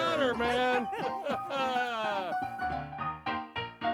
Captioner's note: laughing; cheerful piano music